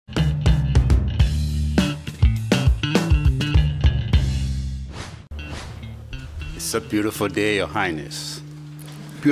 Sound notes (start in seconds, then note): 0.1 upbeat, rhythmic music; 4.9 swooshing